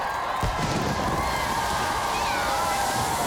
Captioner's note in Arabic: ثوران; هتاف